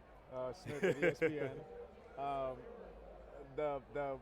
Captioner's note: laughs